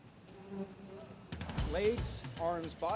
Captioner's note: buzzing